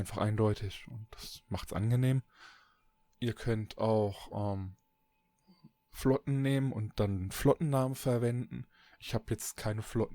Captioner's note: ehm